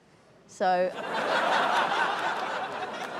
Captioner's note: laughter